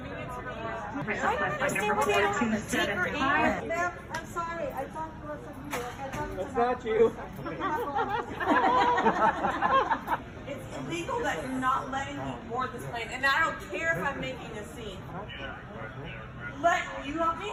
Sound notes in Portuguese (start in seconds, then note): 7.5 Risos mas o senhor não está me deixando